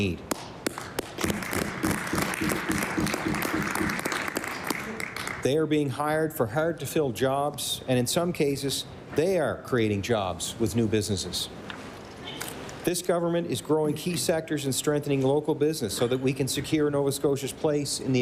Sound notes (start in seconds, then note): 4.5 applause